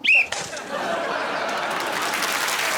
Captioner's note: blows whistle